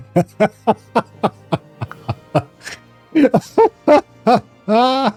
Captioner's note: laughter